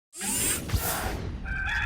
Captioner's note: air whooshing; cock crows